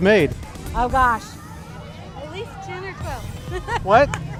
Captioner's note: laughing